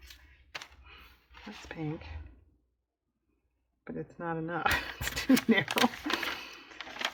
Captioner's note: laughs